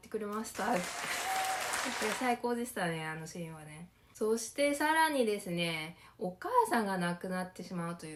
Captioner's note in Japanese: 拍手